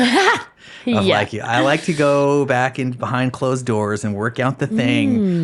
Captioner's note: laughing